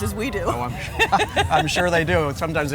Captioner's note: both laughing